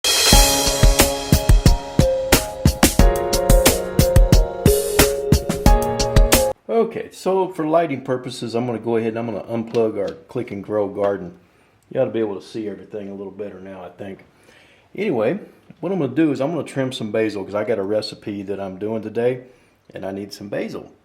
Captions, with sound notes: (relaxing piano music) - [Voiceover] Okay, for lighting purposes I'm going to go ahead and I'm going to unplug our Click & Grow Garden. You ought to be able to see everything a little better now, I think. What I'm going to do is, I'm going to trim some basil because I've got a recipe that I'm doing today. And, I need some basil.